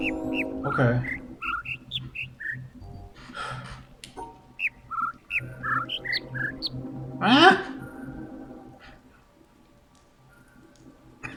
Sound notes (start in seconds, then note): 0.1 overlapping birds chirping, ˥ ˥ ˩ ˧ ˩; 3.1 overlapping birds chirping, ˩ ˧ ˥ ˩ ˥; 3.2 sighs